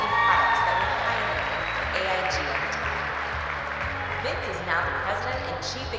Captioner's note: cheers and applause